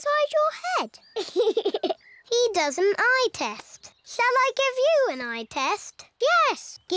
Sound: laughs

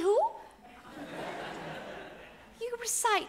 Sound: audience laughs

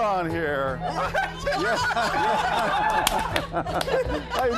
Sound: crowd laughs

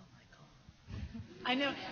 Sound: laughs

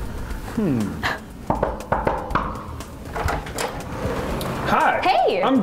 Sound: knock knock

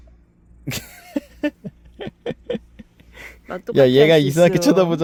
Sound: laughs

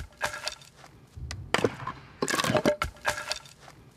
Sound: wooden noises

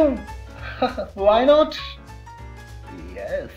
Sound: laughing

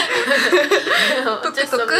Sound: laughing

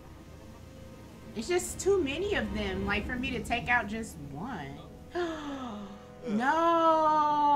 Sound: gasp

